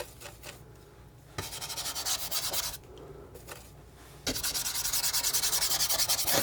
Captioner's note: scratching